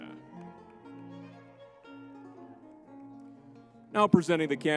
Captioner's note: crowd cheering; lively music